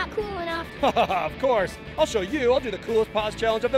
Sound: laughs

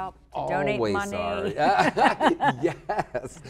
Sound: laughter

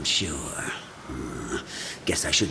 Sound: sighs

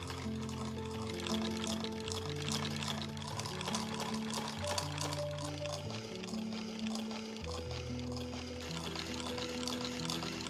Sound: delicious sewing machine noises

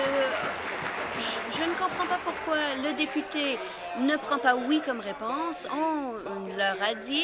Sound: applause

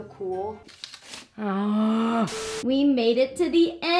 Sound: groans

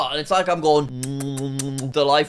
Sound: kissing noises

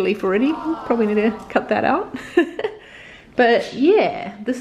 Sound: laughs

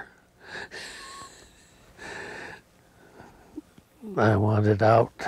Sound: laughs loudly

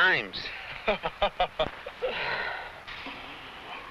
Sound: man laughs

